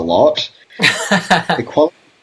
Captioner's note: laughs